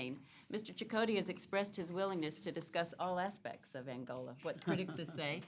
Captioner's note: laughter